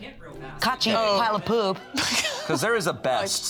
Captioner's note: laughs